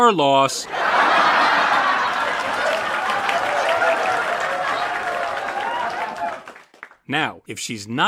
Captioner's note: crowd laughing and clapping